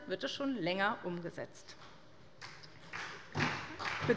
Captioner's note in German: Beifall bei der SPD